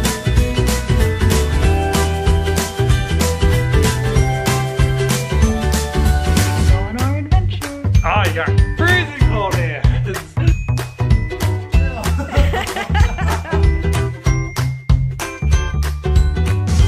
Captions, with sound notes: Going on our adventure. - Oh, you have freezing cold hands. (laughing) (upbeat music)